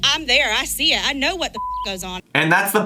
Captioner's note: beep